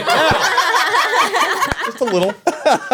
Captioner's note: laughing